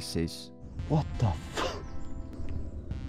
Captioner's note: laughs